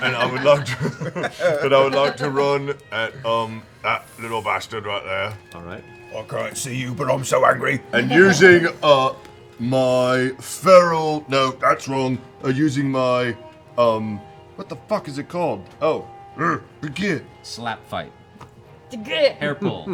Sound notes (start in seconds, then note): 0.0 laughter; 6.5 Grog voice